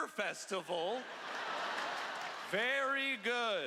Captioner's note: laughter